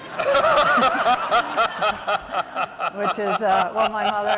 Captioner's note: laughter